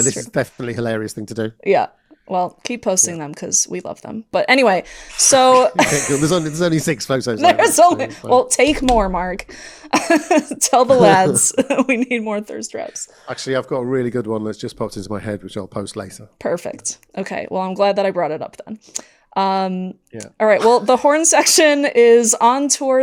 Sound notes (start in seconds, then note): 5.0 laughing; 9.9 both laugh